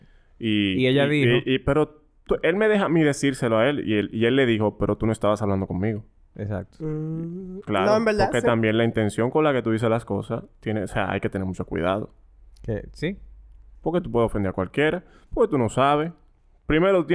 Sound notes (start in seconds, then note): 6.9 hums